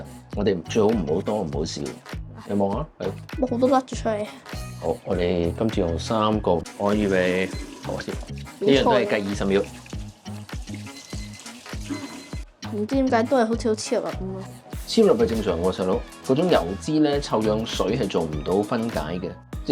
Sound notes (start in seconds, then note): 10.8 beep beep beep